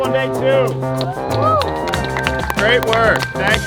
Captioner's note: loud clapping